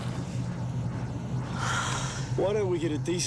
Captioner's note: Jodie sighs